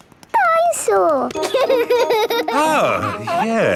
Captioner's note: giggles